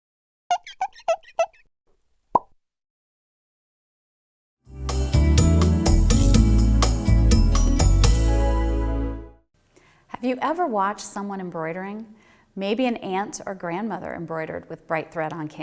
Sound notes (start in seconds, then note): 0.5 squeaking; 2.3 pop